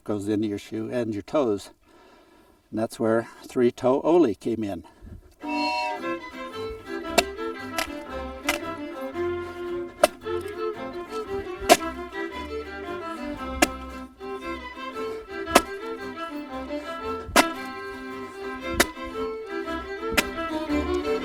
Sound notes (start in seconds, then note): 6.9 lively fiddle music; 12.9 ax chopping